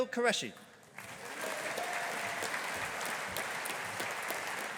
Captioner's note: audience applauding